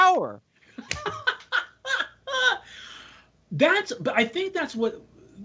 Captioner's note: laughing